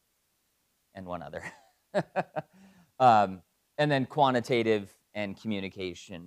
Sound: laugh

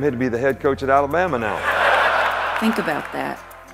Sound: laughter

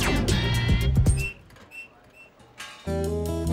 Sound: upbeat music; creaking; clanking; mischievous music

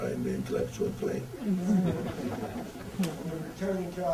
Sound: audience laughter

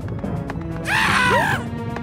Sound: Mario screams

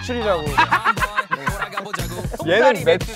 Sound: laughing

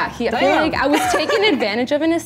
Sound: laughs

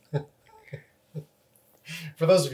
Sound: laughs

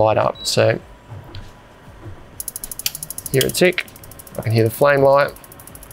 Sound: rapid ticking

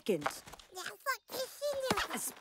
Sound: babbling

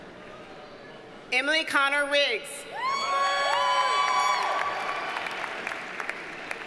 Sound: audience cheers and applauds

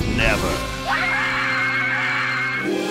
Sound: screaming

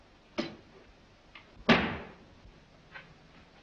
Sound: crashing sound

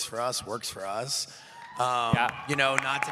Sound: cheering

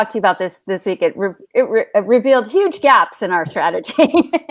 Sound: laughs

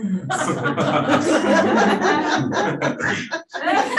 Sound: panelists laughing

